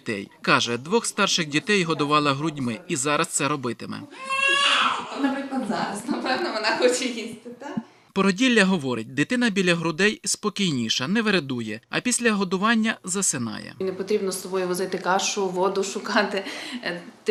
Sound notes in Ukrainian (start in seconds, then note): 4.0 Плач немовляти